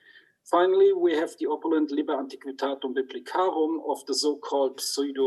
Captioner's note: speaks in foreign language